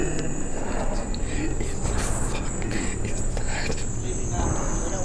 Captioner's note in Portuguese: sussurrando, horrorizado